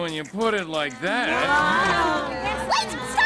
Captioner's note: giving up murmurs